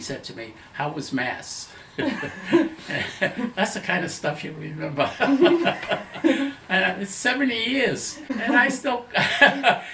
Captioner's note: laughter